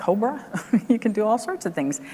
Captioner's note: laughs